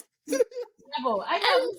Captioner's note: laughing